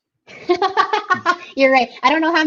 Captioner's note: laughing